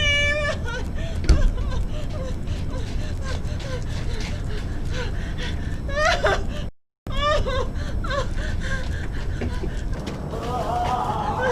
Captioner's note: frantic Gasps and crying